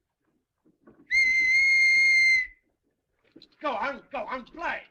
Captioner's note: تصفير بصافرة